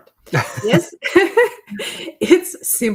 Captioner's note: group laughing